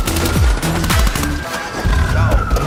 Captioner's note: gunshots banging; siren wailing